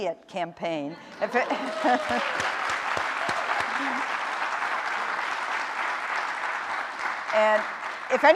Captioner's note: laughter